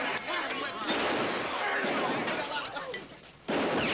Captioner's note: gunshot; gunshots; bullet ricochets